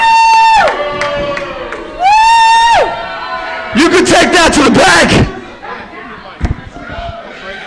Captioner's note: Pope and Lucy scream; Lucy screams